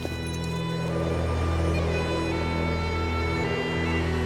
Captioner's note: freezing mountain wind